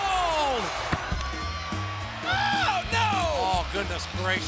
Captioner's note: clippers buzzing